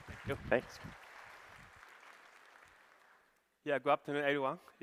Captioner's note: applause